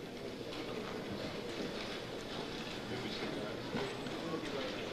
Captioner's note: overlapping chatter